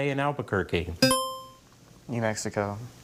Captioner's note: buzzer chimes